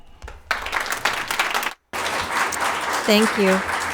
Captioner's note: audience clapping hands